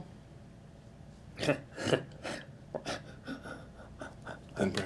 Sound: laughing

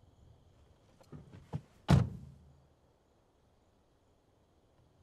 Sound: car door closing

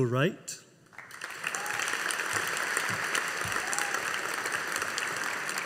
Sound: audience applauding

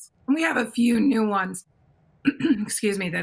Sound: clears throat

